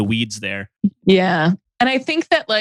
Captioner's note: laughs